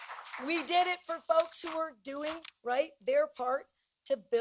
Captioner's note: applause